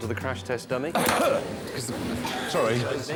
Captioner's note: coughs to cover hammering